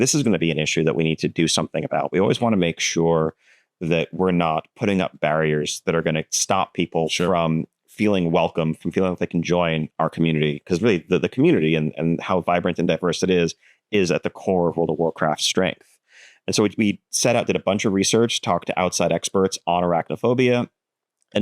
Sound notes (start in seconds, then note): none